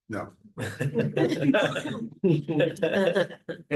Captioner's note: laughter